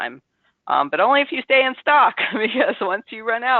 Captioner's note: laughs